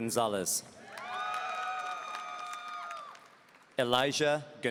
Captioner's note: audience cheering